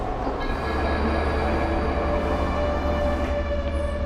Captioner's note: sinister noise